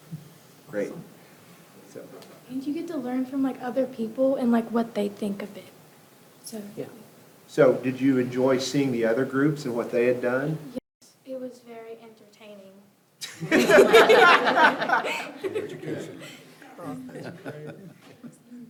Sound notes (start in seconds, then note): 13.3 all laugh